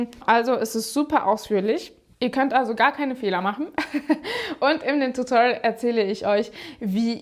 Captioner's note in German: gelächter